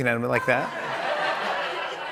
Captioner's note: laughter